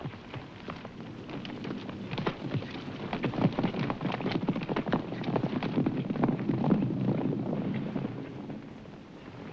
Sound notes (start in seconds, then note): 0.0 hooves thundering